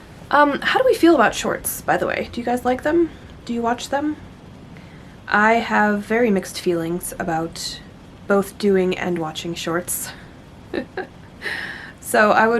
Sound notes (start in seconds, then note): 10.7 rueful laugh